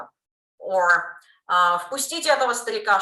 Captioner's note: Russian